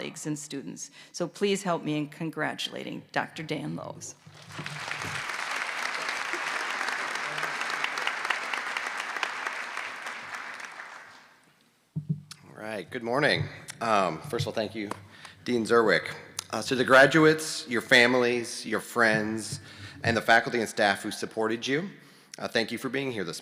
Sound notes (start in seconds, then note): 10.2 applause